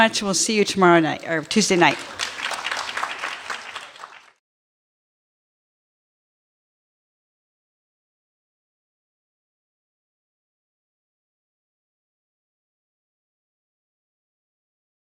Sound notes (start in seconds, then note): 1.1 clapping